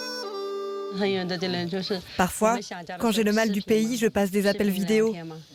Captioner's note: soft Asian music; speaking foreign language